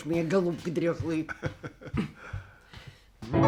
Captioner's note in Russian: смех